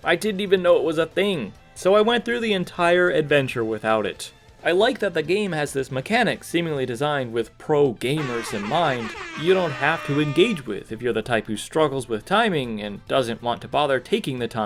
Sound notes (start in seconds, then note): 8.2 airhorn